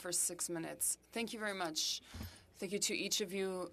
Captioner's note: speaking French